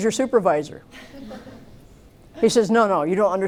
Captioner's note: laughter